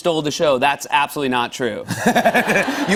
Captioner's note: laughter